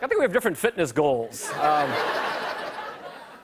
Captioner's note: laughter